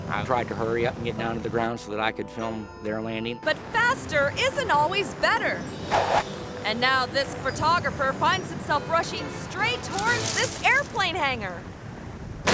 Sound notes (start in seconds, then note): 5.9 air whooshes